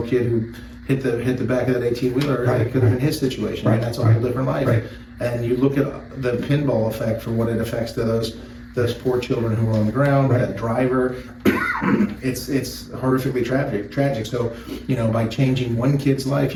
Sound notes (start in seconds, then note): 11.4 coughs